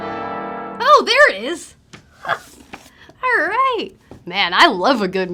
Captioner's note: laugh